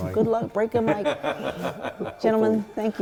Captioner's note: laughing